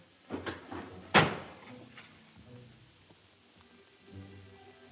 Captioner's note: door slams